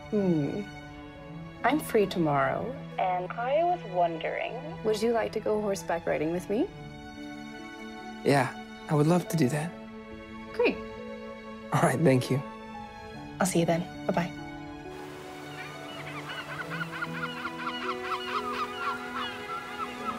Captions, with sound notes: - Hmm. I'm free tomorrow. And I was wondering, would you like to go horseback riding with me? - Yeah, I would love to do that. - Great. - All right, thank you. - I'll see you then, bye, bye. (birds crowing)